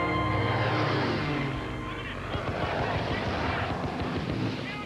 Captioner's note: man over radio